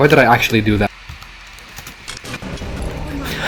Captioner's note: typing